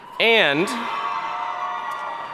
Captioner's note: audience cheering